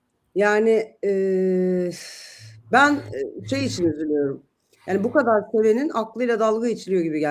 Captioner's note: iç çeker